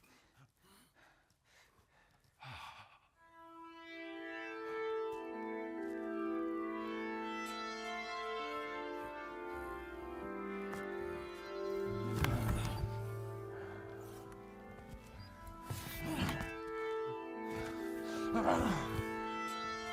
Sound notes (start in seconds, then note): 2.6 brooding music; 2.6 performer exhales; 12.4 group grunting